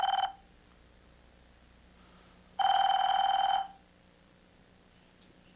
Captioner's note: telephone rings